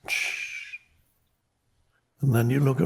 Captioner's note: Eckhart hisses